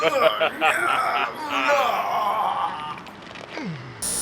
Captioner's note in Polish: evil laughter